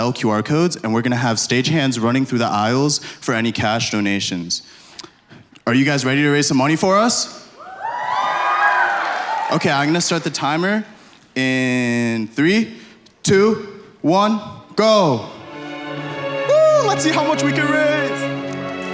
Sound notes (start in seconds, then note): 8.0 applause